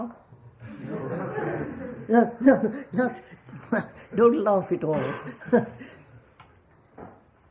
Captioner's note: laughter